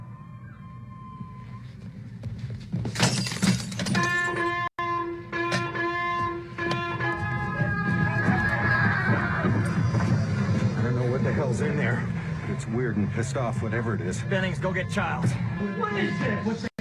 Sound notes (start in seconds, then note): 0.1 dog Whines In The Distance; 4.1 alarm Sounds; 7.0 yelling And Running